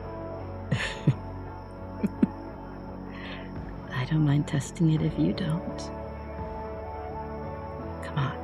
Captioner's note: chuckles